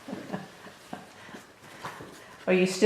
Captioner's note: laughter